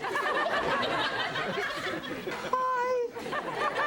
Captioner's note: audience laughs